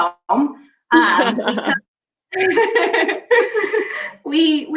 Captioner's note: laughing